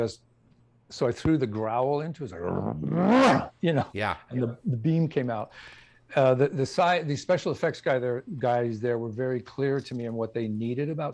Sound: growl noise

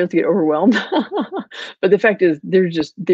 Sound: laughing

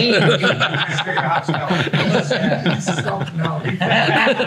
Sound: everyone laughing

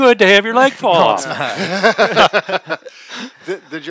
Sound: guys laughing

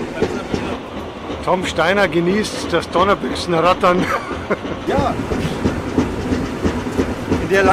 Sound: laughter

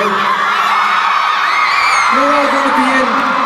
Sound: crowd cheering

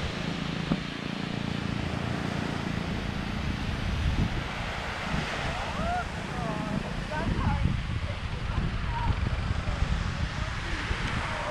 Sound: sound of waves; shouting to Alice

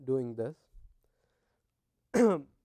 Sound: cough

